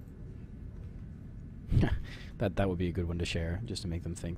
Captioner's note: chuckling